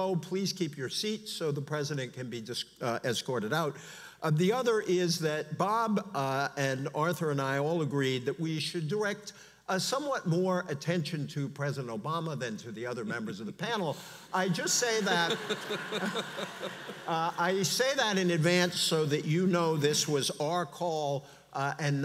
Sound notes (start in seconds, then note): 14.4 audience laughs